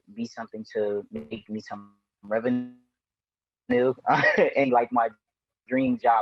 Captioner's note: chuckles